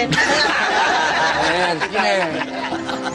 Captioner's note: everyone laughing